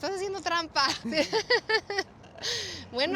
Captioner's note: laughs